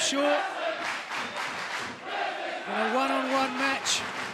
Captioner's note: fans chanting